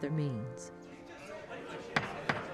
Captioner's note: indistinct chatters